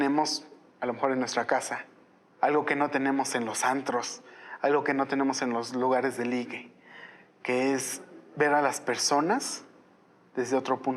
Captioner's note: speaking in Spanish